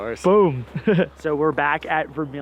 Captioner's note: laughs